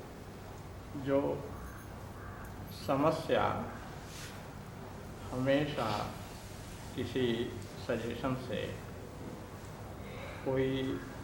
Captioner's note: Hindi